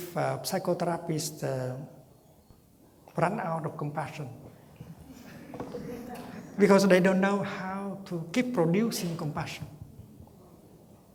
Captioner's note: laughter